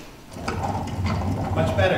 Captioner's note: wagon noises